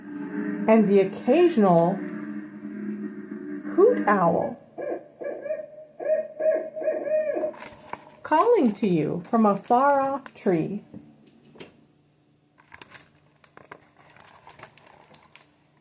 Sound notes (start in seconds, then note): 6.2 owl sounds